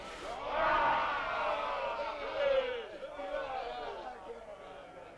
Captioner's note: chieftains shouting